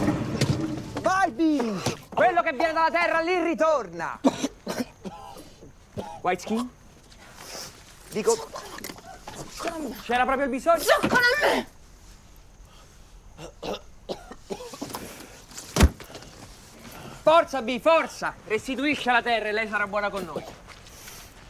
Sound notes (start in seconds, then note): 4.2 vomiting; 13.4 coughing; 15.8 whack